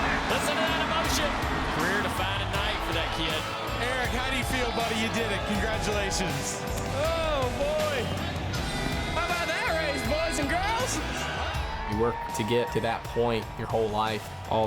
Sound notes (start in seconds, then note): 11.4 cheers